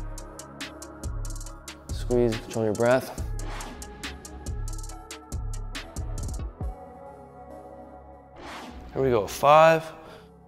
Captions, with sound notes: Squeeze. Control your breath. (air whooshing) (air whooshing) Here we go, five,